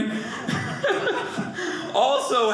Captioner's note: audience laughing